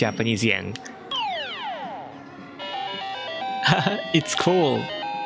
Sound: Mario Sound Effect; Mario Sound Effect

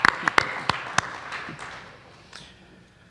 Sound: applause

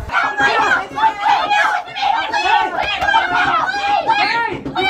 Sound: boys yelling and knocking

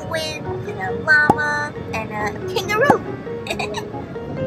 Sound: laughs

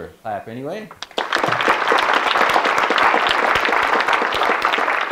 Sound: audience clapping

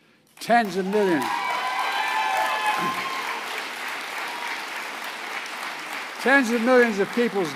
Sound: applause

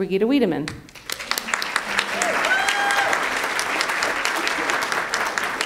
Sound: audience applauds

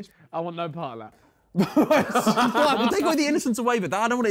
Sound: Sidemen laughing

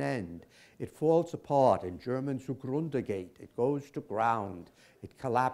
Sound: german

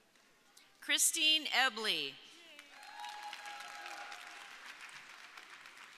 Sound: audience cheering

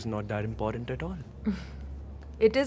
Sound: laughter

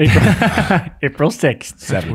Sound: all laugh

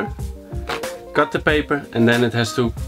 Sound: rips paper

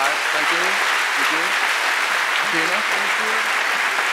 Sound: applause

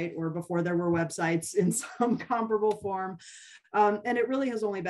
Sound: laughter

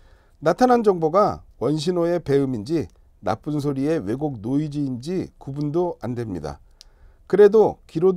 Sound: distortion, noise

